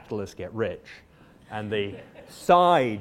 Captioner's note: laughter